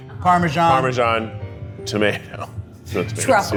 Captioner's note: laughs